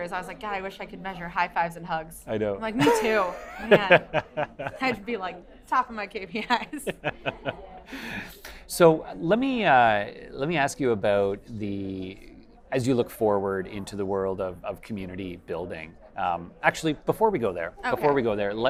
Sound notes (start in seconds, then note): 6.8 chuckles